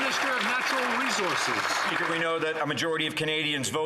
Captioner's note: some Applause